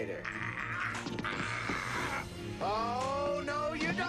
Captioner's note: injured groans